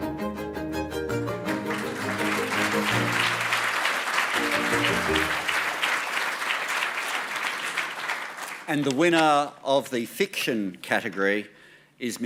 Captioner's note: applause